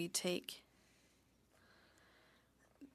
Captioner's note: speaking french